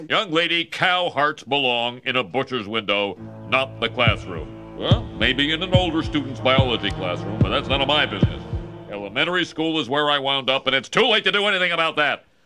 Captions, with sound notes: Young lady, cow hearts belong in a butcher's window. Not the classroom. [HEARTBEAT THUDDING] Or maybe in an older student's biology classroom, [HEARTBEAT THUDDING] but thats none of my business. Elementary school is where I wound up, and it's too late to do anything about that!